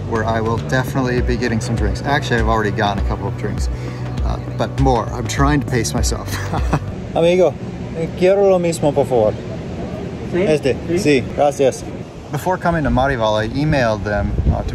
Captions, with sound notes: where I will definitely be getting some drinks. Actually I've already gotten a couple of drinks, but more I'm trying to pace myself. (laughs) (speaking Spanish) Before coming to Marival I emailed them